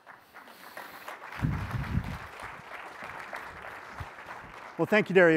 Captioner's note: applause